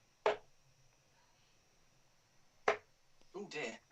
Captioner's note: dart ticks